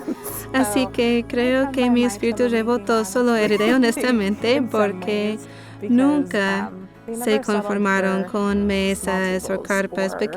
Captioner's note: laughs